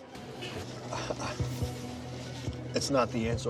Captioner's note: chuckles softly